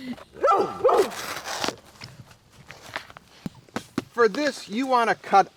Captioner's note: barking; tearing